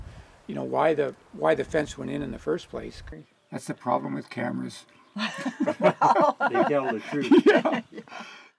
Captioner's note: laughing